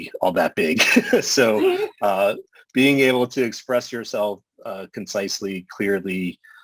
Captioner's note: laughter